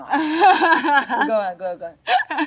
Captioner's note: Jung laughs